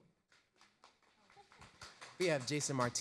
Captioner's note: audience applause